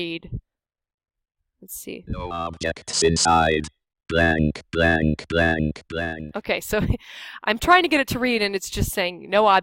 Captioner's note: NVDA voice speaking